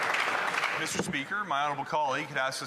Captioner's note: some Applause